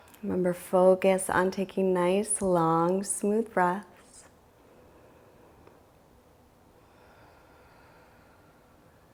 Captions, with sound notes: Remember, focus on taking nice, long, smooth breaths. (exhales)